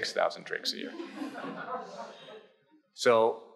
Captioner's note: audience chuckles